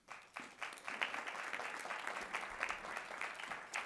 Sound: crowd applauds

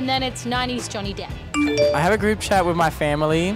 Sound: phone chiming

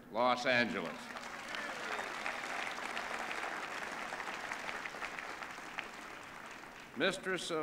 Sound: applause

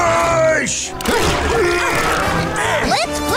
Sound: grunting

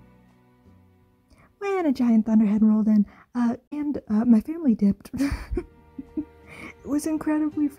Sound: chuckle

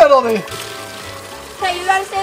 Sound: water flowing

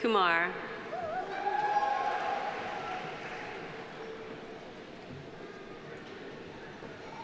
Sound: audience cheering; audience applauding

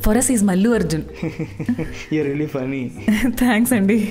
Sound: chuckles

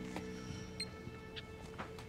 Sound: dialing

